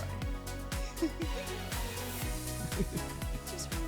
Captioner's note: laughing